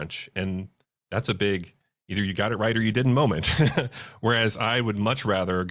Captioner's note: laughs